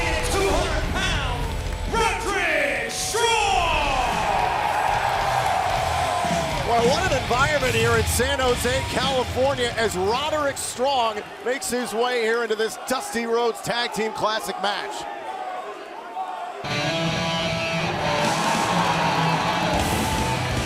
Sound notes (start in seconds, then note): 3.8 crowd cheering; 14.7 crowd cheering